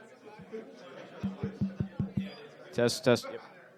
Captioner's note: audience murmuring; knocking on mic